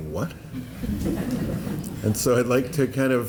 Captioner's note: laughter